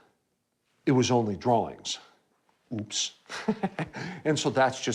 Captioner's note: laughs